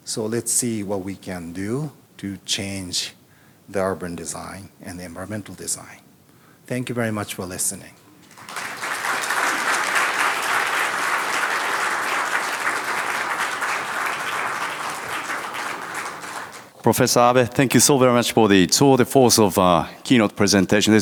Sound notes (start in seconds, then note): 8.2 audience applauding